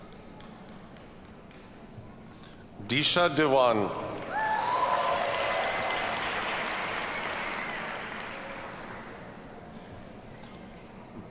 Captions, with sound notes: Disha Dewan. (audience cheers and applauds)